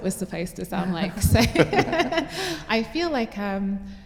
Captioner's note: laughter